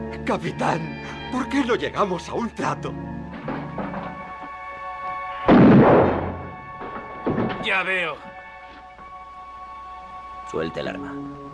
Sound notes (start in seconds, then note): 3.3 bucket rattles; 5.4 gun fires